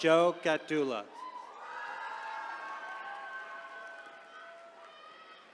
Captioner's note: attendees cheering